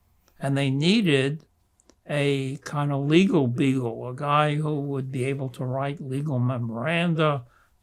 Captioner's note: none